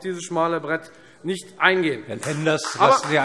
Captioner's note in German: Beifall Freie Demokraten